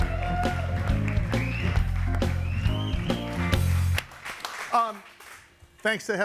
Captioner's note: upbeat music continues; audience applauding